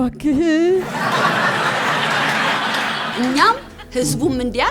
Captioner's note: laughter